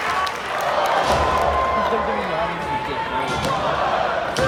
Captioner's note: crowd groans